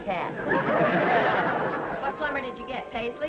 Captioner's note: audience laughing